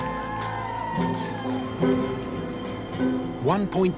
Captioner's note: crowd cheering